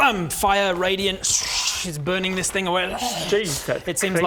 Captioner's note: shhch